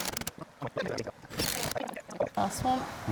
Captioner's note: drill whirring